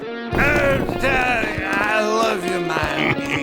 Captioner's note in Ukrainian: П'яний лепет